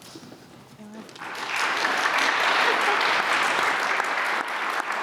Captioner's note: applause